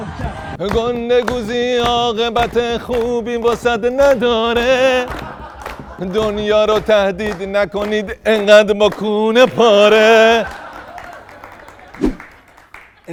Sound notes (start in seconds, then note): 5.0 laughter; 10.2 laughter